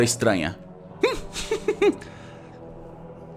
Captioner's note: laughs